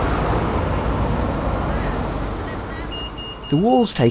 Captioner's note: pedestrian crossing sound